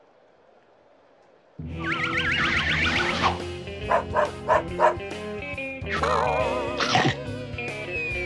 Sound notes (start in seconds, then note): 3.8 dog barks; 6.8 chomp